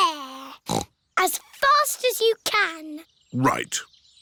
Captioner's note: snorts